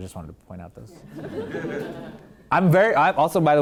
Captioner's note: laughing